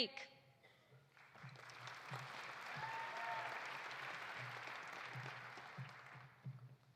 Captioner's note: audience applauding; audience cheering